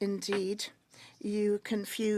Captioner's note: speaking French